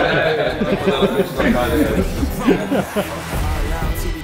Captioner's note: laughs